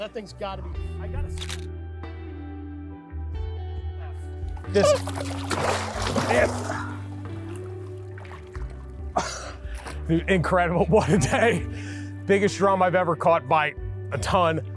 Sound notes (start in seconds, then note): 2.1 soft slow music; 4.6 water splashes; 5.3 soft slow music